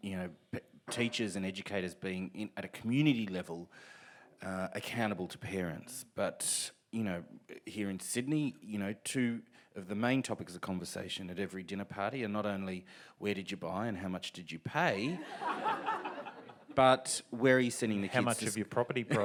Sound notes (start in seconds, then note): 15.2 audience laughs